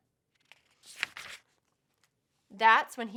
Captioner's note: paper rustles